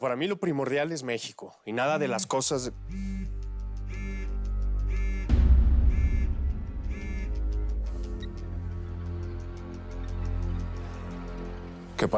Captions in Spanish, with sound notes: PERO PARA MI, LO PRIMORDIAL ES MEXICO. Y NADA DE LAS COSAS DE... [Zumbido de el celular] [Bip]